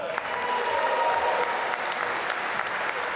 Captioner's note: applause